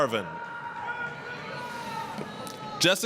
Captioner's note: applause, cheering